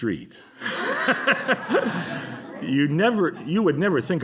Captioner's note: laughter